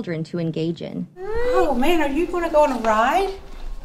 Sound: cries

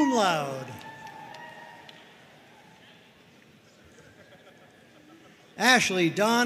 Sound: audience cheering and applauding

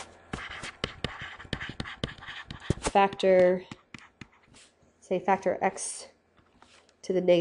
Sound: scribbling

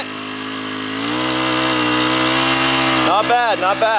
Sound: machine roaring

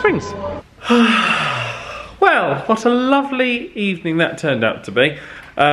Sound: sighs

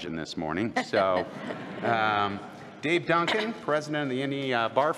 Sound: laughter

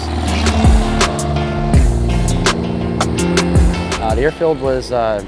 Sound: plane engine revving; lively upbeat music

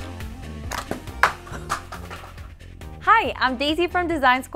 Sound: laughing

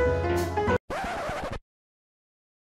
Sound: scratch sound effect playing

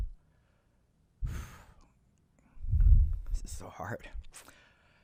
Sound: exhales loudly

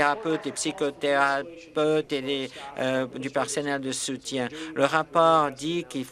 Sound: applause

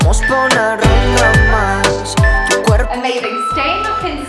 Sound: beeping

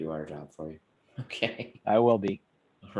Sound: laughs

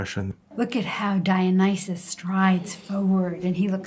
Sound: voiceover

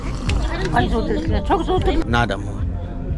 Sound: woman speaks mongolian

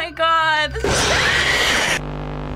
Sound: in game: growl; screaming

